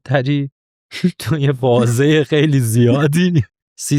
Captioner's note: laughs